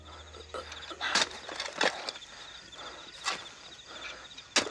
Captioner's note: man breathing heavily